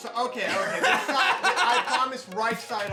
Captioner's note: laughs